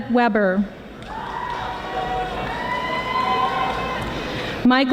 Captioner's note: audience applauding